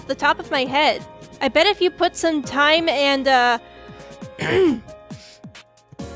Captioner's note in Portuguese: limpa a garganta